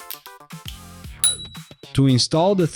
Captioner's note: bell Sound